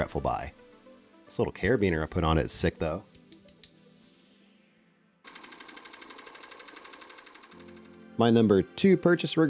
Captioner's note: keyboard Clacking